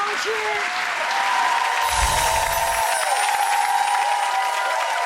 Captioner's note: audience applause